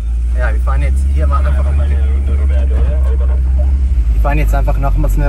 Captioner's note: on the radio